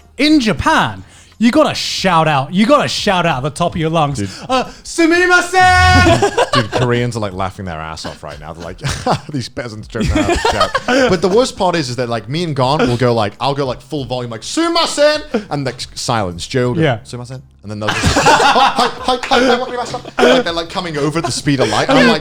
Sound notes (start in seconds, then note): 4.5 shouting in foreign language; 14.4 shouting in foreign language; 17.0 whispering in foreign language